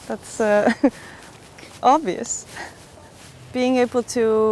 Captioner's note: chuckles